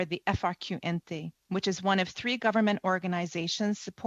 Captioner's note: speaking French